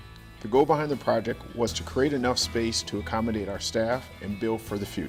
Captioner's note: none